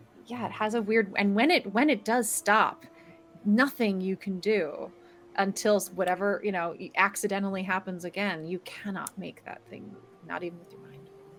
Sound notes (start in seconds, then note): none